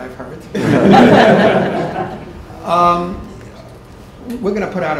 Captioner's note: laughter